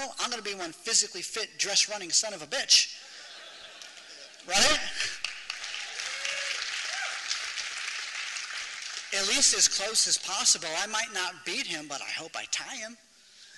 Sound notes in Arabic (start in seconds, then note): 7.1 تصفيق